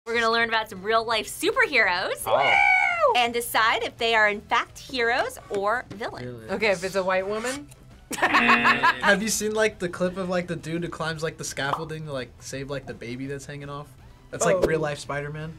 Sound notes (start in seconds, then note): 8.1 laughs; 8.2 buzzer